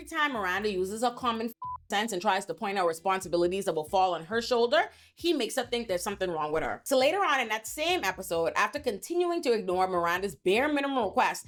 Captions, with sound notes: time Miranda uses a common (beep) sense and tries to point out responsibilities that will fall on her shoulder, he makes her think there's something wrong with her. So later on in that same episode, after continuing to ignore Miranda's bare minimum request